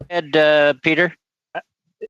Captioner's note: speaking French